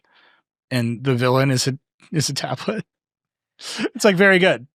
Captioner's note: chuckling